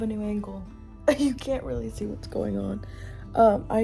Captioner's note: laugh